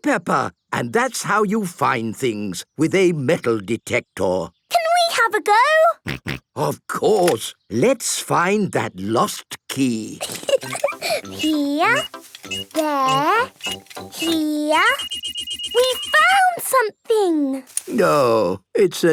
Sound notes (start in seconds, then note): 6.3 snorting; 10.2 giggling; 14.7 beeping